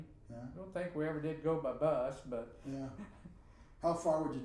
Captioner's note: laughing